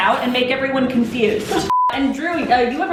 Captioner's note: beeping